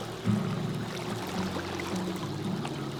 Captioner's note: water rushing